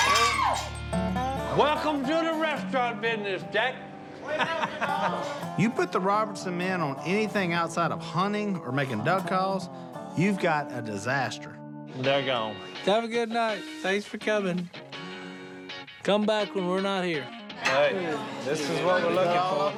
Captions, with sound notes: [screams] Welcome to the restaurant business, Jack! [chuckles] You put the Robertson men on anything outside of hunting or making duck calls, you've got a disaster. They're gone. Have a night. Thanks for coming. Come back when we're not here. Hey, this is what we're looking for.